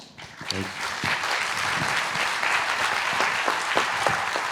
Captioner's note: audience applauding